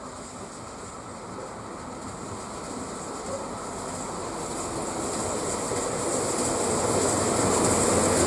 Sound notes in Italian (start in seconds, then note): 5.4 Rumore carrelli treno cantiere